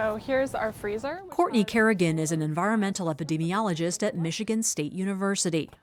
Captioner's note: voice-over